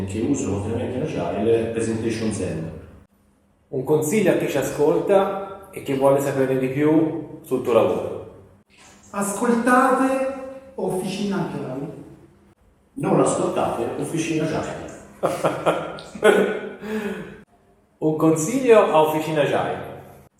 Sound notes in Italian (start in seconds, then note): 15.2 risate